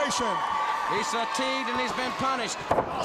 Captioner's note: crowd cheering